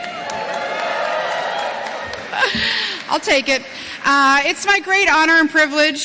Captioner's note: cheering